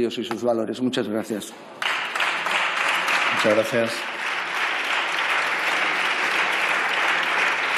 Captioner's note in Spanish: Aplausos